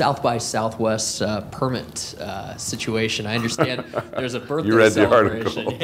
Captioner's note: laughing